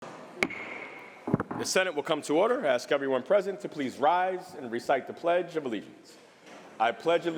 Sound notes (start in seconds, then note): 0.4 gavel bangs